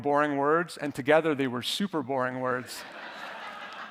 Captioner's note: audience laughing